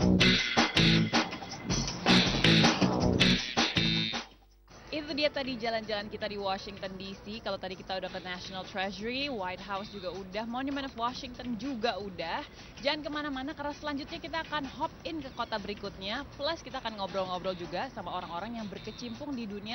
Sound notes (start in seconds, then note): 9.0 non-english speech